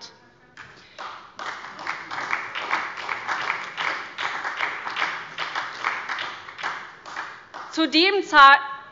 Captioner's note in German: Beifall bei der SPD